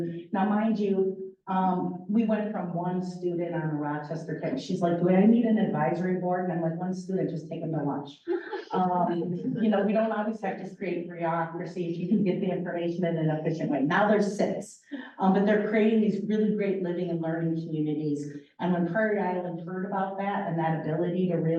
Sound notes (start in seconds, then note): 8.2 laughter